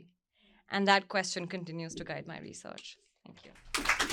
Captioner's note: applause